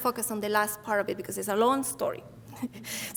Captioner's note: chuckles